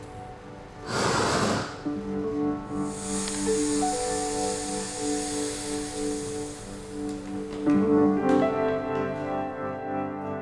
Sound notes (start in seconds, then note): 2.6 steam hissing; 7.6 gentle music